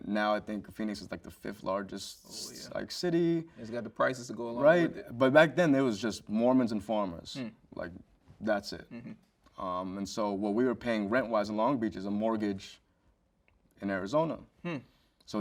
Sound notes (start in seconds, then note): none